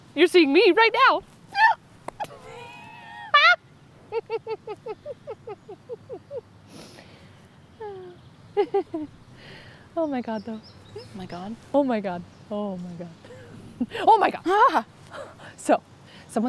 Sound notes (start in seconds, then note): 1.9 wheezing; 2.2 excited noise; 4.0 laughter; 7.8 sighing; 8.5 more laughter